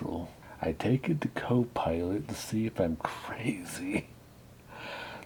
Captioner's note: laughing